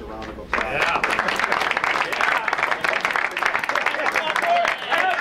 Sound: crowd applauds and cheers

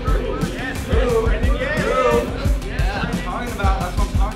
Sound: chattering

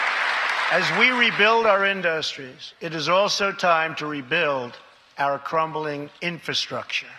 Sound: applause

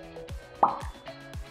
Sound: pop

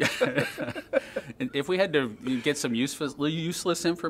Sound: laughter

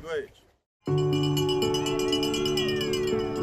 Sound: bells ringing

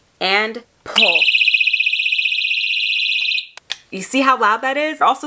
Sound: alarm beeping

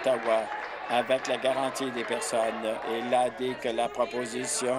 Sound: applause

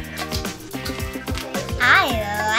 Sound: Crunch

